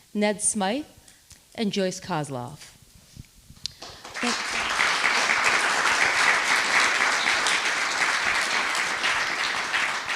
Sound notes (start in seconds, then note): 3.7 attendees clapping